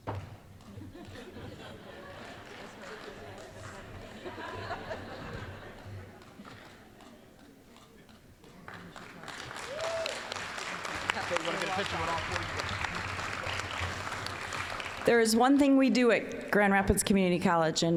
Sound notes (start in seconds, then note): 0.6 audience laughing; 8.6 applause